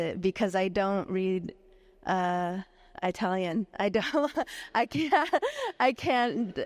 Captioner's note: laughs